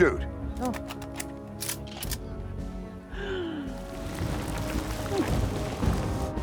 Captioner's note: laughs